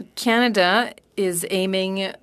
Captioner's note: speaking French